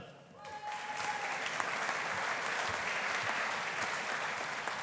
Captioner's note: audience applauding